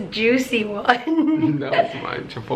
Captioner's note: laughter